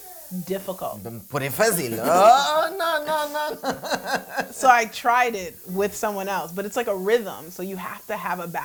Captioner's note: speaking in portuguese and laughing